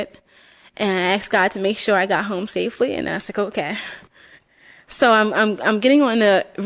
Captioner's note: breathes shallowly